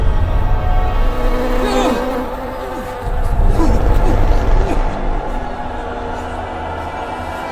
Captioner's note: Dr. Olds cries in horror